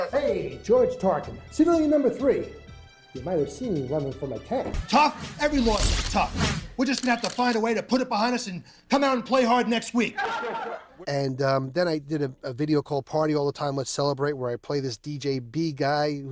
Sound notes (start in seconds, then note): 10.2 all mumbling